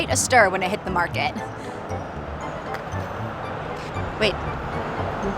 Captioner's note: bright playful music; distant traffic bustle